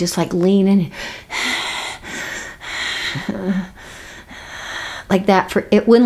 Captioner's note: breathing heavily